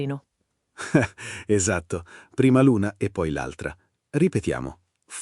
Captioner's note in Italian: Haha